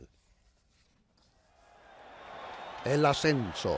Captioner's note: crowd chattering